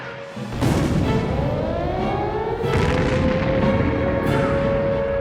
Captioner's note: bomb explodes; buoyant music